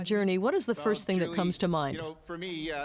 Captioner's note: speaking French